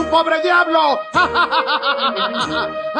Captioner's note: Risas; laughs